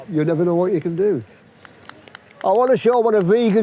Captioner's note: clapping